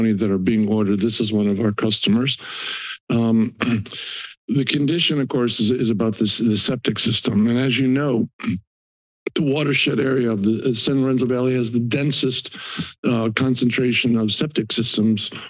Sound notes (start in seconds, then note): 2.4 inhales; 2.5 clears throat; 8.2 clears throat